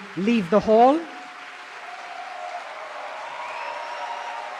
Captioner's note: cheering/Applause